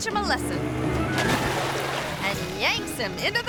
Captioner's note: water splashing